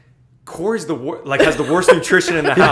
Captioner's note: laughter